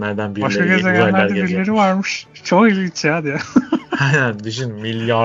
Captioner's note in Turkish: kahkaha